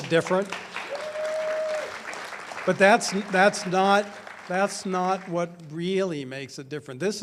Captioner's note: audience cheers and applauds